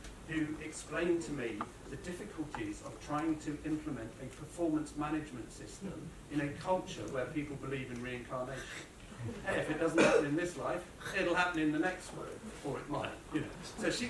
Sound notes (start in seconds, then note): 9.2 laughter